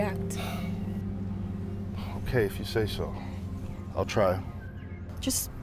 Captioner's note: sighing